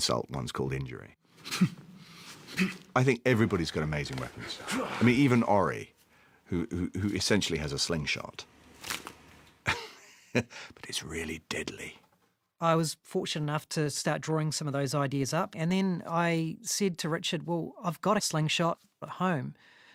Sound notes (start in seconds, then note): 9.6 chuckles